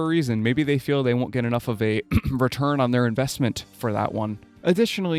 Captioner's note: ahem